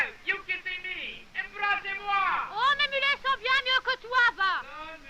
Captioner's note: all conversing in french